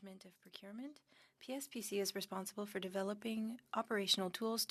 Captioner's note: speaking French